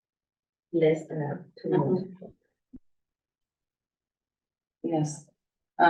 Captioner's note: muffled voice